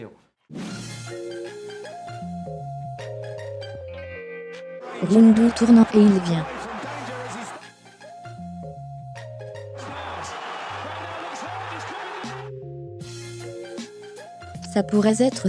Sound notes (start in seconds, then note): 0.2 upbeat music; 7.6 upbeat music; 9.7 crowd cheering